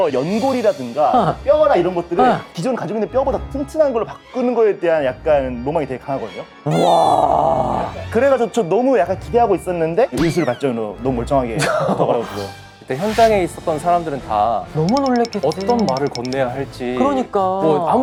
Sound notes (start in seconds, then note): 6.6 terrified